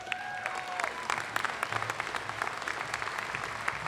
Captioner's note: applause